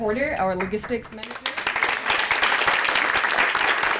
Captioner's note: applause